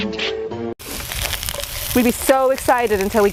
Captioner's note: onions sizzling